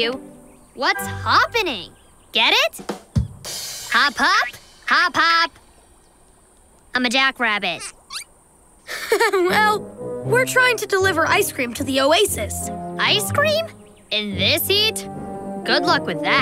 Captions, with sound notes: What's hop-pening? Get it? Hop hop. Hop hop. I'm a jack rabbit. [laughing] Well, we're trying to deliver ice cream to the oasis. Ice cream? In this heat? Good luck with that.